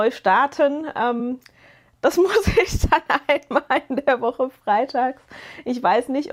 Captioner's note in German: gelächter